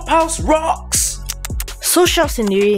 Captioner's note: tsk tsk tsk